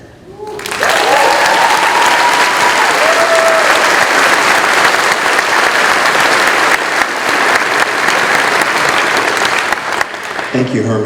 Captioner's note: cheering